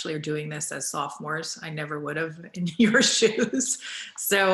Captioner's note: laughs